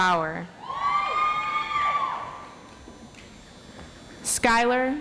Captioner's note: audience applauds